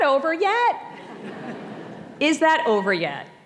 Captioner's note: audience laughing